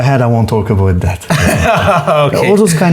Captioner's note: laughs